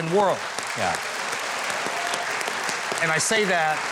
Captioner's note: crowd applauding